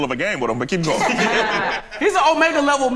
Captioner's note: group laughs